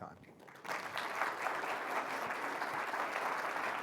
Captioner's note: audience claps